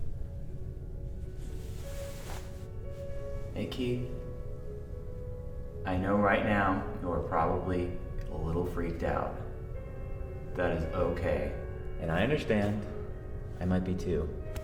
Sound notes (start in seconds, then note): none